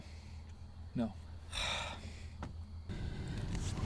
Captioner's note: sighing